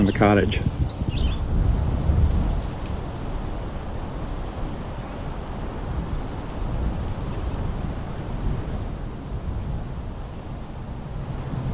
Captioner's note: wind